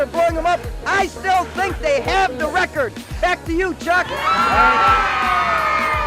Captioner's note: crowd cheer